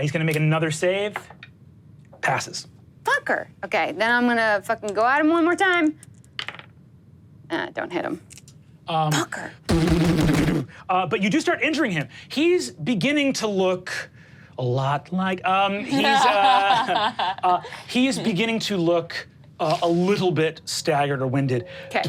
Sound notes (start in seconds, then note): 15.8 Pete laughs